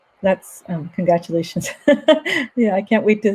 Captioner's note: laughs